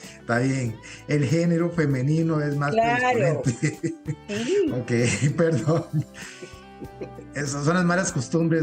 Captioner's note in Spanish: risas